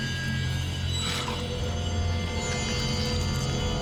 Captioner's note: slurping